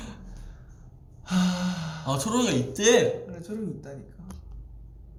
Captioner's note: sigh